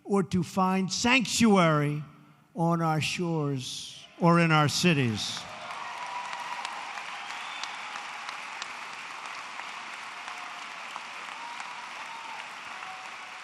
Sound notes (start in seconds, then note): 5.2 applause